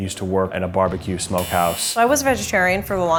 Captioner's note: buzzes